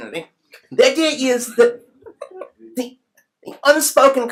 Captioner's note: chuckles